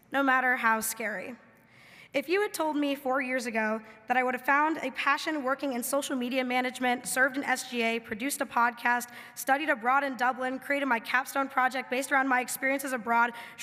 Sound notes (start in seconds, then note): none